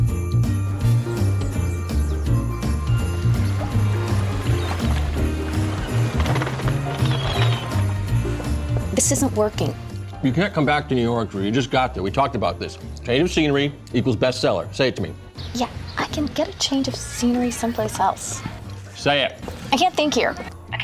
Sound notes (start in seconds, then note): 6.5 seagulls squawking